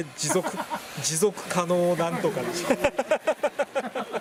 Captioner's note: laughs